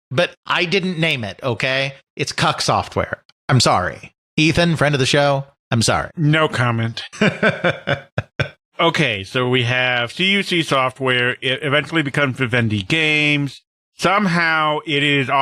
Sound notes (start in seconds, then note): 7.1 laughs